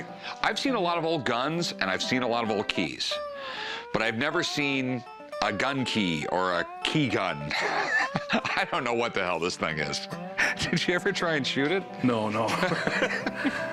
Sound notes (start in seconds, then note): 6.5 laughs; 12.4 Rick laughs